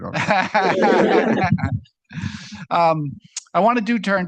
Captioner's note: laughter